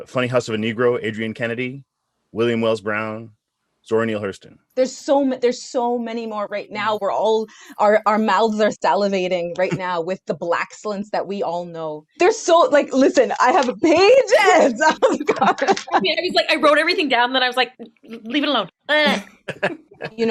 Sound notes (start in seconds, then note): 14.3 laughs